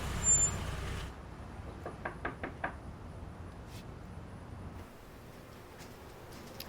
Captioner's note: knocking